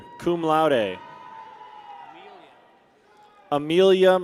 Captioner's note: people cheer